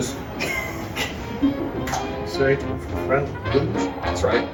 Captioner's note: door clangs